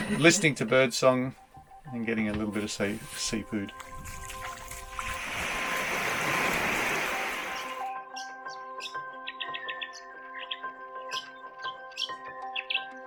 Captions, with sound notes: Listing to bird song and getting a little bit of seafood. (waves crashing) (birds tweeting and chirping)